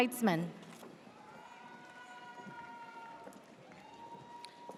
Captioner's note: audience cheers